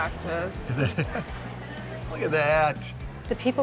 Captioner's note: John laughs